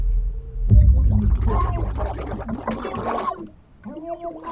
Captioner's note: dramatic music; water bubbling